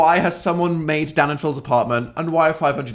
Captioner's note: none